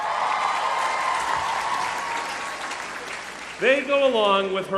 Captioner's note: applause